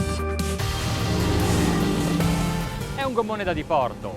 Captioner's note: boat engine roaring; speaking foreign language